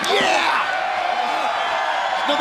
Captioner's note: crowd cheering